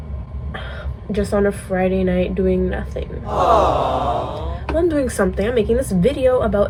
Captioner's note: awww